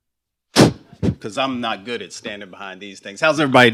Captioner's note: blows